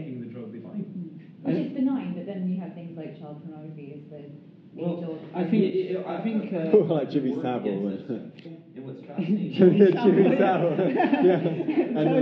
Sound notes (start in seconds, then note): 6.6 laughter; 9.2 laughing; 9.8 more laughter, clapping